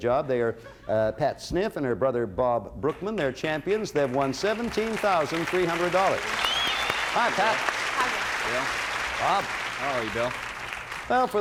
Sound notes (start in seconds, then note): 6.2 cheers and applause